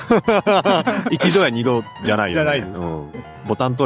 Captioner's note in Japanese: 笑い